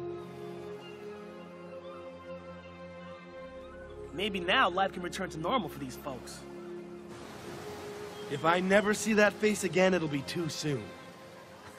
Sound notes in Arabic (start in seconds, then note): 0.9 النوارس تنعق